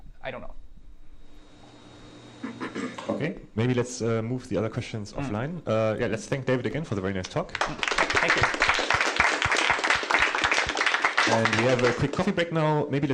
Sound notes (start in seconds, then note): 9.1 applause